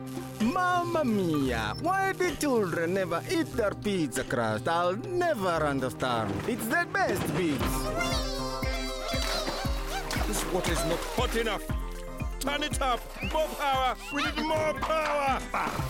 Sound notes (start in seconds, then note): 7.8 Bongalalas exclaiming happily